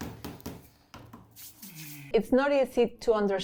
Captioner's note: tapping